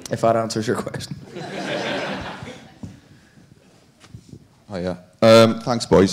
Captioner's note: audience laughing